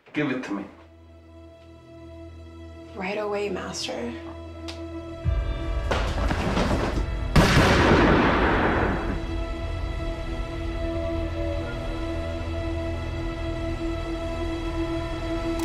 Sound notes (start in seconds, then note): 1.4 dramatic music; 7.3 gun shoots